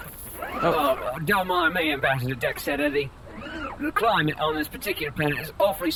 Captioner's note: coughs obnoxiously